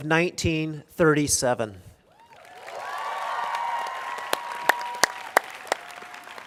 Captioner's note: cheers and applause